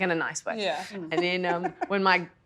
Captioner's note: giggles